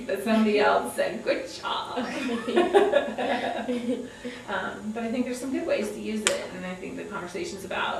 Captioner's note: laughter